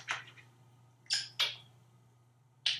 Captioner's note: kisses